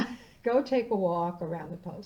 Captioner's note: laughing